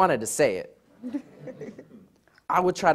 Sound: audience laughs

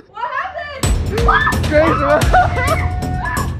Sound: screams

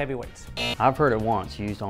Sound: buzzer

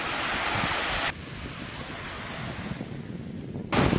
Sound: water splashing

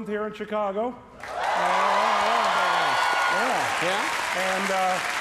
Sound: audience cheers and applauds

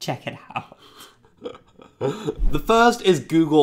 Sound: laughs

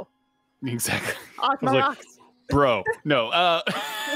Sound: laughs

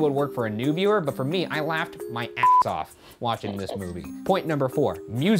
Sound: beeping

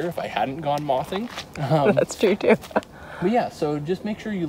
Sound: laughs

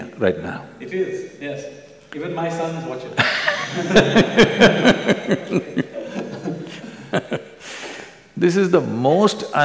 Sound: laughter

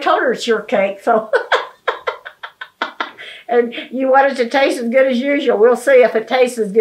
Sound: laughing

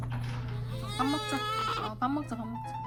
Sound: crying

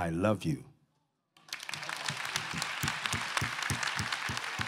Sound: applause

